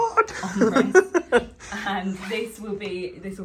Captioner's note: laughing